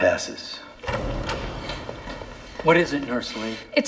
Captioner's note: door opens